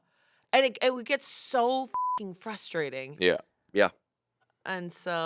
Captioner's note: beep